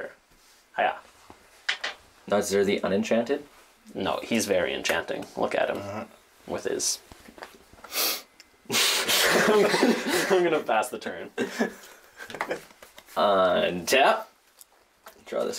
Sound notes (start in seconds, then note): 5.8 grunts affirmatively; 9.0 laughter